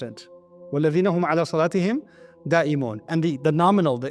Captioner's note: Arabic